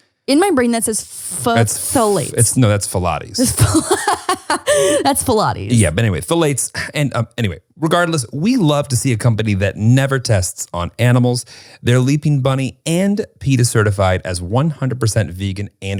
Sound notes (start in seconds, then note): 3.4 laughing